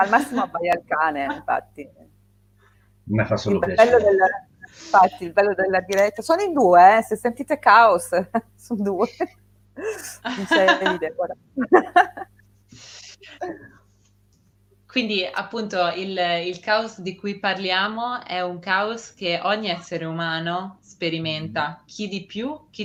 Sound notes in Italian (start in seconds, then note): 11.6 risate